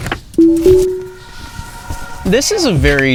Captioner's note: car beeping